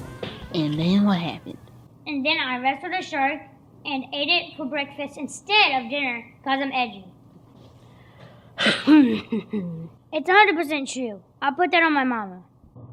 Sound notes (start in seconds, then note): 8.6 incredulous cough